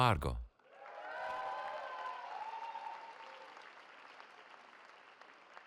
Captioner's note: cheering